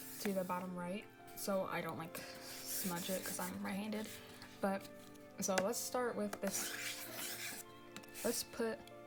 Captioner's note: pencil scraping